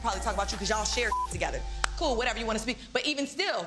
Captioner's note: beep